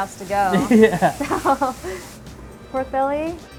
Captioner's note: both laugh